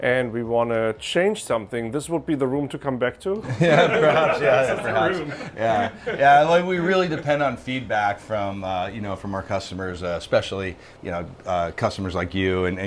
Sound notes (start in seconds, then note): 3.4 group laughing